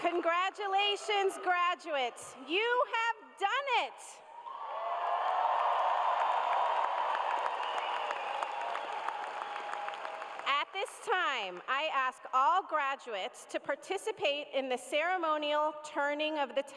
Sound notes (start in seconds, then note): 10.5 cheers and applause